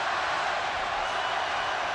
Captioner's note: loud cheering